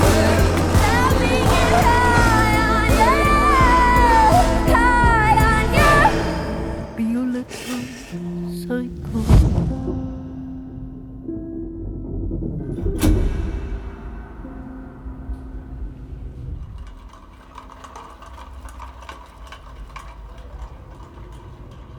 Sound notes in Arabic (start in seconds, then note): 16.3 قعقعة